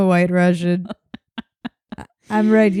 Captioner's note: laughing